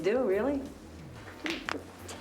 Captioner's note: cracks knuckles